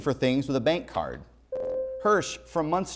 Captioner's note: buzzer